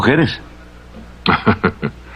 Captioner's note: chuckling